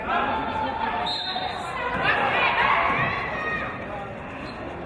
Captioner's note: referee's whistle